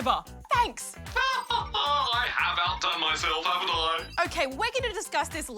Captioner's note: laughs